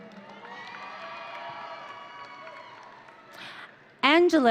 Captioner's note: audience cheering